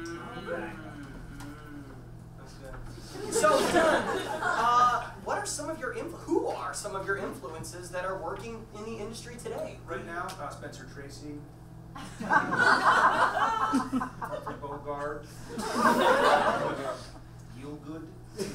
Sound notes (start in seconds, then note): 3.1 audience laughs; 12.7 audience laughs